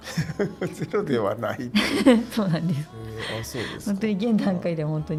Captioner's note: laughs